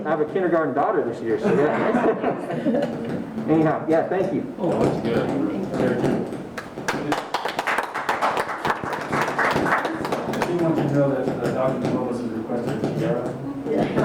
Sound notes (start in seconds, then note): 6.6 group Applause